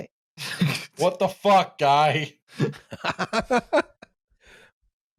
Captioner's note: laughs